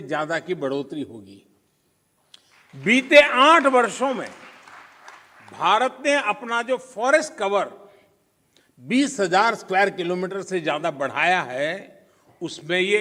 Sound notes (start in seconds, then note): 5.6 applause